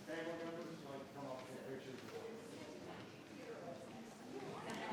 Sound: everyone chattering

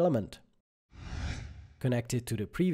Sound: screen whooshes

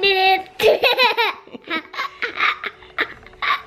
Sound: laughs

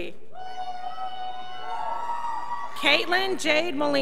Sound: scholars whopping

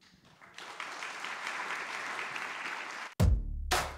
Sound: applause; drum beats

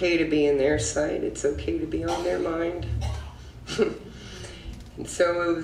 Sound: laughs

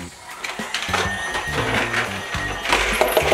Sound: vacuum noise

